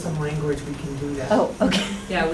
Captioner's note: laughs